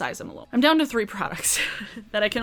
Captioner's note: chuckles